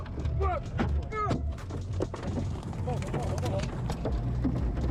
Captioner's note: debris thumping